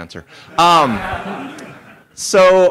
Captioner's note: laughter